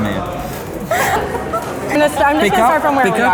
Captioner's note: laughing